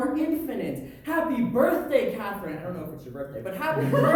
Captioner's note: audience laughter